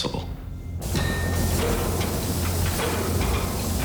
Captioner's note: machinery banging